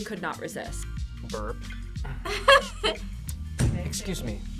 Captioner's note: laughs